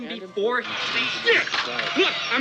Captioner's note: man yells